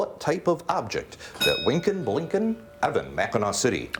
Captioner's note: bell rings